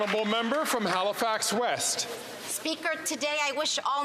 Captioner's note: some Applause